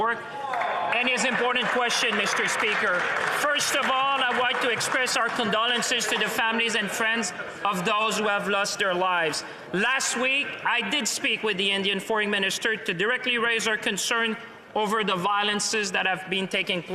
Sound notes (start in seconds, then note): 6.3 some Applause